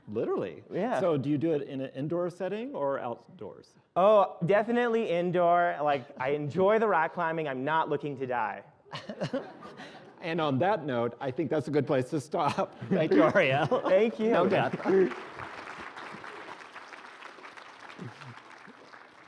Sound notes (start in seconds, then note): 8.9 laughing; 14.4 applause